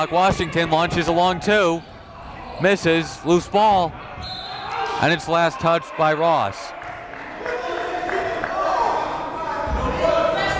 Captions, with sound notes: Washington launches a long two. Misses, loose ball. (whistle blows) And it's last touched by Ross. (applauding)